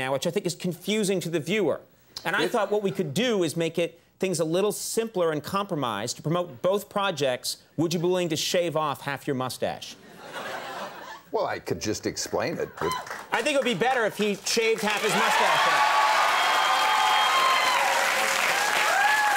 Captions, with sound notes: which I think is confusing to the viewer. And I thought what we could do is make things a little simpler and compromise to promote both projects. Would you be willing to shave off half your mustache? (audience chuckles) Well, I could just explain it. (woman whoops) I think it'd be better if he shaved half his mustache off. (audience cheers)